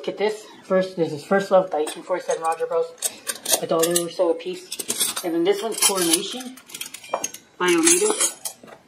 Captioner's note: clanging flatware